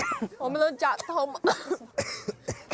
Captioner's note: coughs